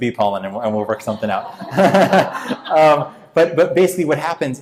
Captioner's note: laughing